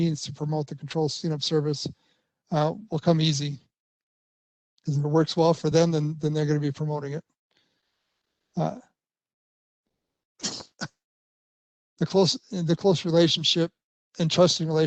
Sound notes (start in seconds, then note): 10.4 coughs